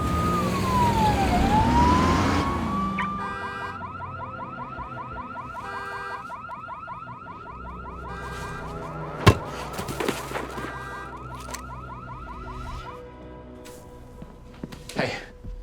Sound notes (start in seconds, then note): 2.6 car alarm beeping